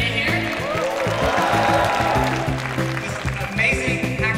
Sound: applause

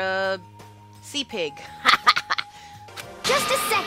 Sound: laughs

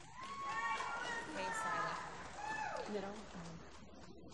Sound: applause

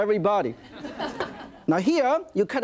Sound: audience laughing

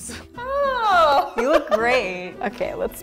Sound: laughing

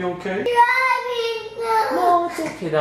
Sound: crying

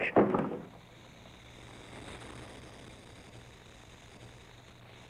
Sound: snake hissing

